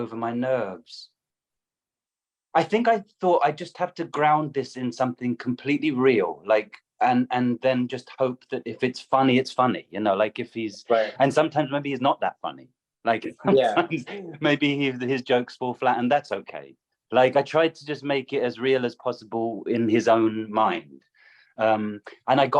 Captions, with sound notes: over my nerves. I think I thought I'd just have to ground this in something completely real like and, and then just hope that if it's funny, it's funny, you know, like if he's right and sometimes maybe he's not that funny. [laughter] Like maybe his jokes fall flat and that's okay. Like I tried to just make it as real as possible in his own mind and